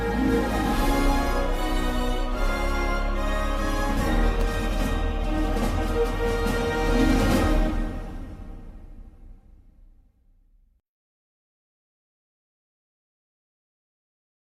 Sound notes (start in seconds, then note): 0.1 epic, bombastic fanfare plays; 7.1 fanfare ends; 10.4 silence